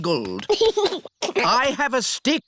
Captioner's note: giggles